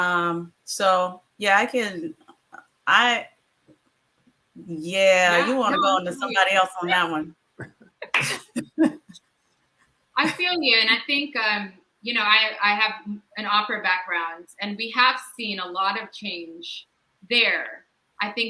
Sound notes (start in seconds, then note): 8.1 all laugh